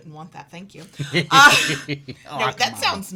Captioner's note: laughs